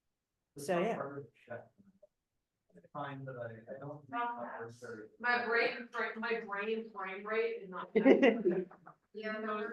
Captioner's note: laughter